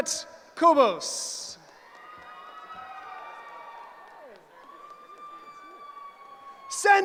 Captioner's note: cheering